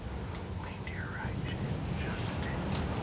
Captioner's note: whispering